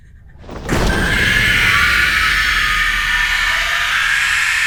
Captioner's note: creature screeching